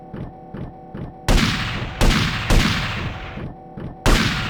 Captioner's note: gunshots